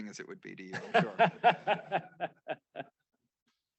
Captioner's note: laughs